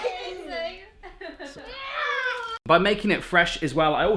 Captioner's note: giggling